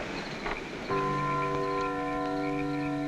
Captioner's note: clock chiming